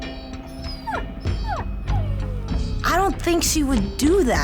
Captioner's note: dog whimpering